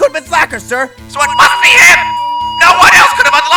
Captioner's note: megaphone blaring